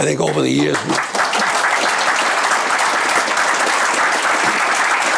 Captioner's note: audience applauding